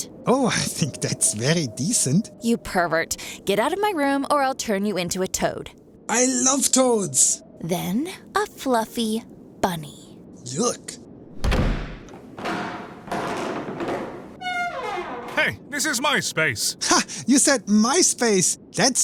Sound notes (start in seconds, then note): 11.3 door slams shut; 12.0 steps on wooden stair; 14.4 wooden door opening